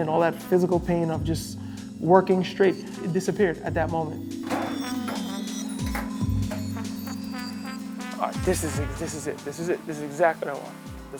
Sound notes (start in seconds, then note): none